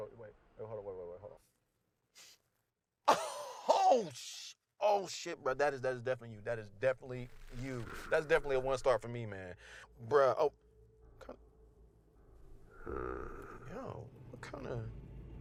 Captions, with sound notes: Wait, hold on, wait, wait, wait, hold on. Oh, sh... Oh, shit, bro, that is, that is definitely you. That is definitely you. That is definitely a one star for me, man. Bro, oh. Kinda... (Meathook Man growling) Yo, what kinda